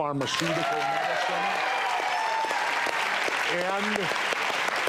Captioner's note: audience cheers